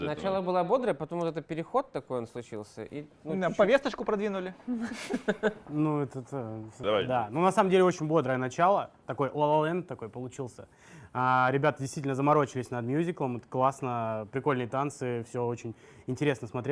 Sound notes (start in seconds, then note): 4.7 laughter